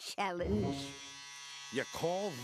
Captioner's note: buzzing